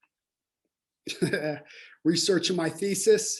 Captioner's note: laughing